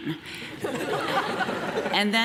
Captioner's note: audience laughs